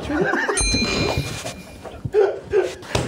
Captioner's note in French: rires